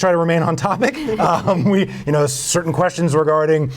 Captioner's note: laughing